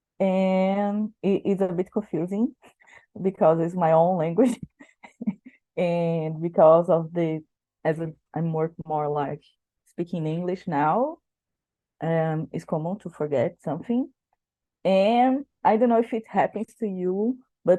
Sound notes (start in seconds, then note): 4.8 laughing